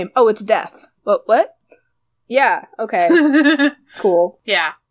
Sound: laughs

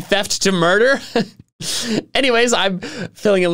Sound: giggles

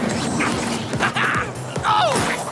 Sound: chuckles

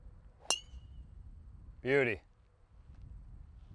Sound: ping!

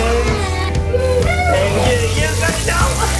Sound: pan sizzling

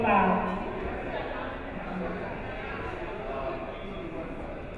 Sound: crowd chattering

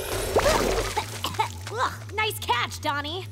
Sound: coughing

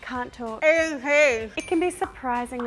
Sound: eating cheese

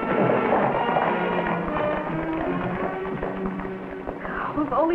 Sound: horses galloping

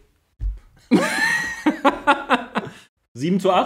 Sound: laughs

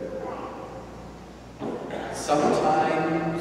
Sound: child babbling

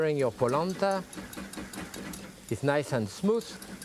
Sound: quickly whisking

